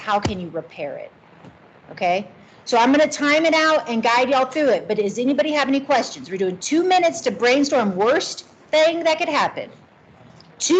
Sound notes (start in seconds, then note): none